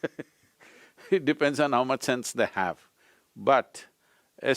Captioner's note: laughs